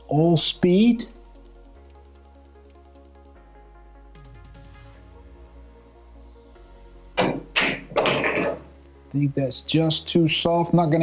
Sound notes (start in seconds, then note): 2.5 lively music; 7.2 balls clanging